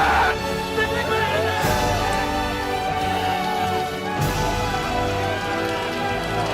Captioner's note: dramatic music; men shouting